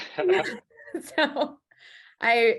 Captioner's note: laughing